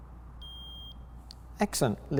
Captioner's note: meter beeps